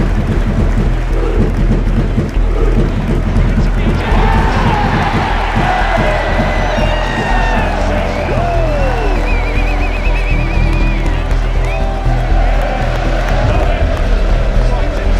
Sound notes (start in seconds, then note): 4.0 crowd cheers